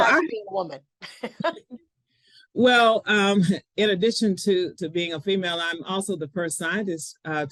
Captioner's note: chuckles